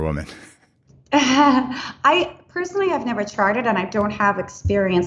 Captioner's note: laughs